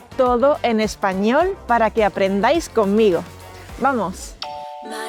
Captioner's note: Spanish